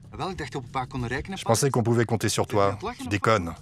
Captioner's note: Dutch spoken audio